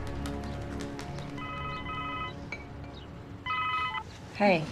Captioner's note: phone rings